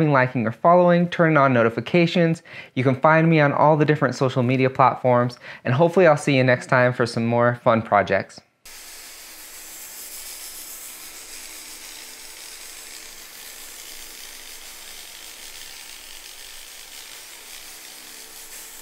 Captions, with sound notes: liking, or following, turning on notifications you can find me on all the different social media platforms and hopefully I will see you next time for some more fun projects. (electric motor whirring)